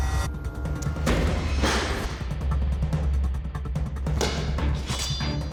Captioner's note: blade impact sounds